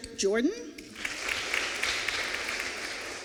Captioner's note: applause